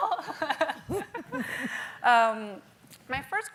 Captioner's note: laughing